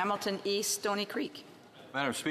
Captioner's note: speaking French